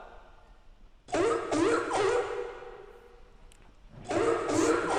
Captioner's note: sea lion barking